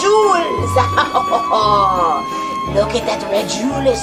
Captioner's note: laughs evilly